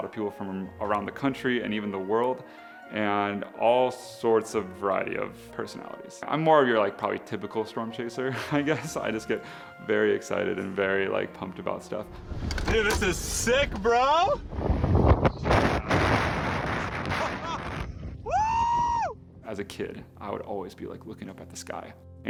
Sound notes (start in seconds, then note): 9.3 laughs; 14.5 loud boom and windy